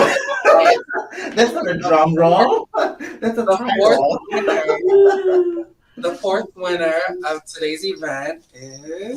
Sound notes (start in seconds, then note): 0.0 group laughs; 2.9 chuckles; 5.3 laughs